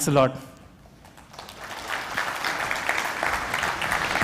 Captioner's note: applause